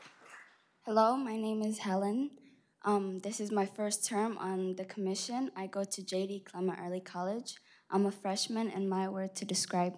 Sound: applause

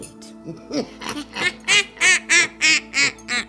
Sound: evil laugh

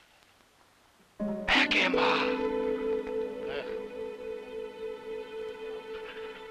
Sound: speaks in foreign language

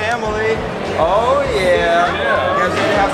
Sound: murmurs

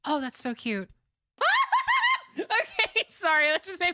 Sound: excited Yelling

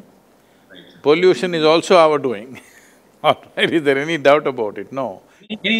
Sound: laughs

